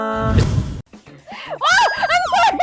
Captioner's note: warning: Loud screams